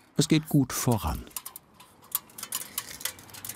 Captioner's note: metallic clatter